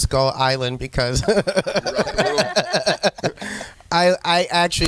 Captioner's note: group laughing